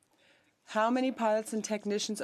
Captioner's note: speaking French